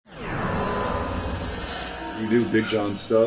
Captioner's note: metallic crescendo